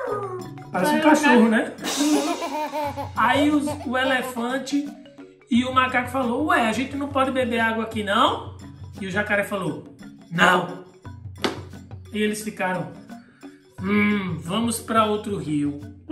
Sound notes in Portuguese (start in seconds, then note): 0.0 Música ao fundo; 1.8 som de prato de bateria; 1.8 risadinha de bebê